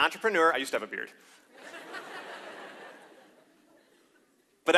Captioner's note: laughter